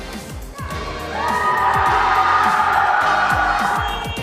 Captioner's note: cheers, then cries of disappointment